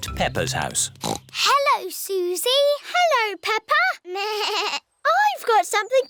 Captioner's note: snorts; bleats